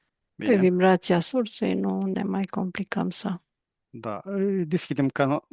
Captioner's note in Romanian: voce dreasă